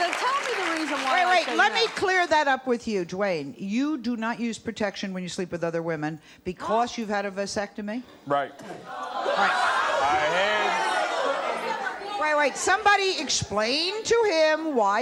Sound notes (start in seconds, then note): 8.9 audience uproar